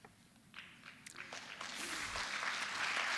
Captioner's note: applause